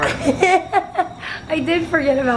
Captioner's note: laughing